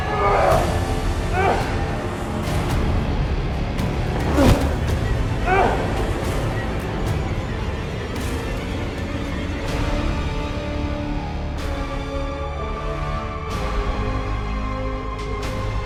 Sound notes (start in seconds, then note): 0.1 Boris cries out; 2.3 Boris groans; 7.9 ominous orchestral music; 12.3 slow orchestral music